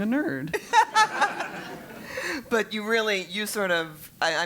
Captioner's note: laugh